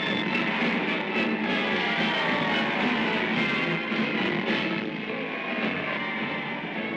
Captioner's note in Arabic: هتاف; موسيقى أوركسترالية منتصرة; موسيقى مبهجة